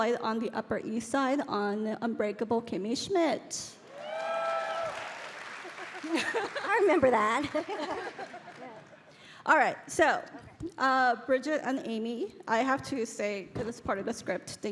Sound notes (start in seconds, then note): 3.9 audience cheering